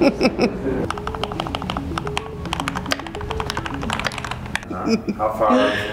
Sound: keyboard clicking; laughing

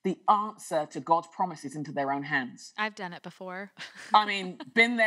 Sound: laughter

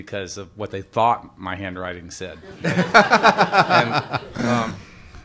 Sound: laughter

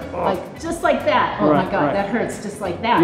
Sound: Tony groans

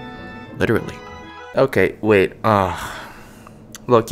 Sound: sigh

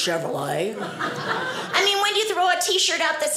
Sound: audience laughing

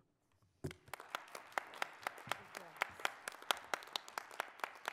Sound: audience applauds

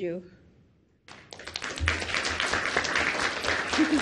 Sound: clapping

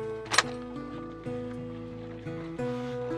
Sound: gentle thud

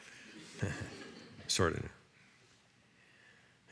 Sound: laughter

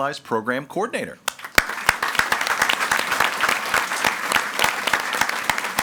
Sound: audience applauding

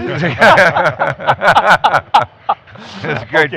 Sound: laughing

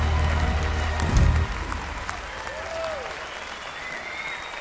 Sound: cheers and applause

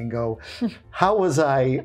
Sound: chuckling

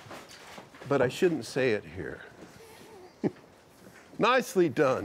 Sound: chuckles

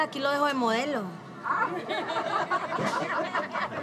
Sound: laughs

